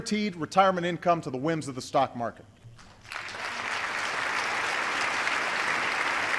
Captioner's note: applause